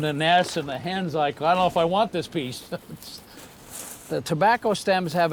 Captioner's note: laughs